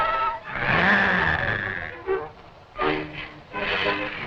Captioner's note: Pete growls